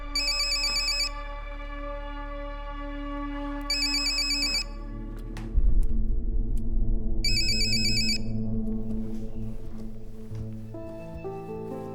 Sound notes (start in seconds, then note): 7.3 ringing continues; 8.8 upbeat piano melody playing